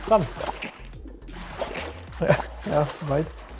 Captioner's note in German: Beißlaut